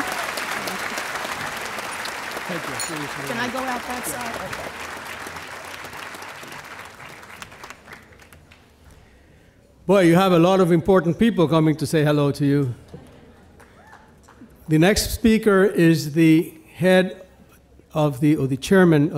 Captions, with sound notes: (audience applauding) Can I go out that side? - Well, you have a lot of important people coming to say hello to you. The next speaker is the head of, or the chairman